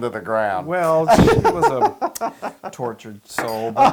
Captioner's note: laugh